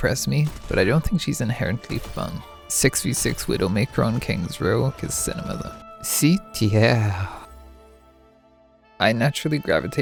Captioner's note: bad french accent